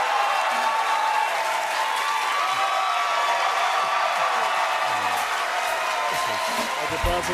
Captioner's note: cheers and applause